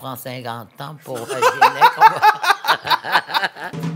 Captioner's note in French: rires